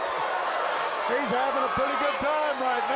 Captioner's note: crowd cheering